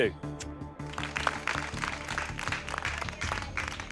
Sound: clapping

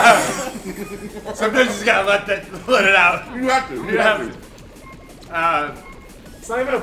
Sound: laugh

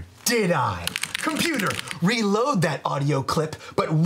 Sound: keyboard clacking

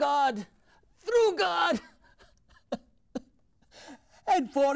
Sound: sobs

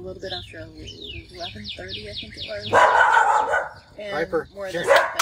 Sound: Piper barking

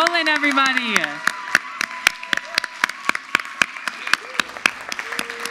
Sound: audience applauds

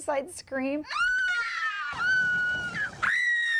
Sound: screams

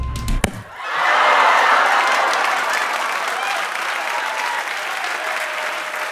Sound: cheering and applause

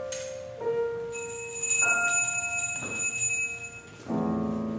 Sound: bell ringing

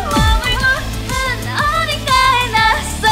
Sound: groaning

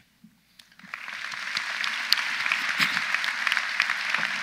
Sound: audience applauds

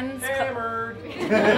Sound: voiceover; laughing

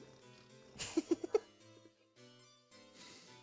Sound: laughs

